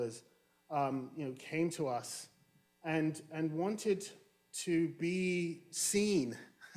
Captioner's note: chuckles